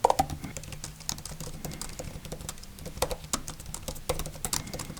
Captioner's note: Logitech Combo Touch clacking